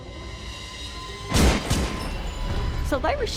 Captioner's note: gunshots